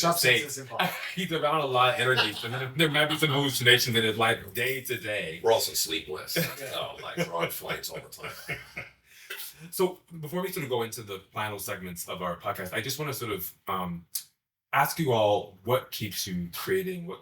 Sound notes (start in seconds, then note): 1.9 laughs; 6.2 laughs; 8.5 all laugh